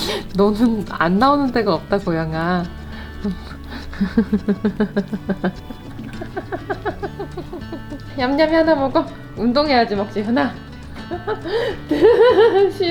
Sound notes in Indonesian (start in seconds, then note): 0.0 tertawa; 3.9 tertawa; 10.1 tertawa